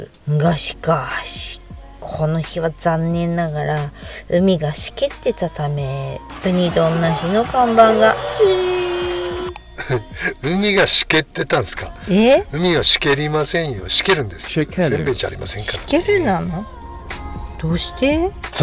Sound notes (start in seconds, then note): 9.7 laughs